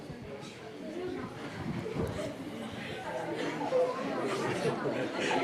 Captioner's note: people chattering